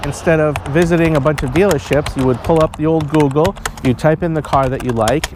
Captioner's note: keyboard Noises